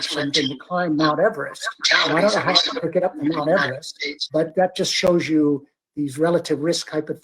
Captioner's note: microphone feedback